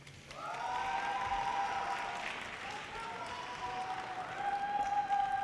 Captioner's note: audience cheers and applause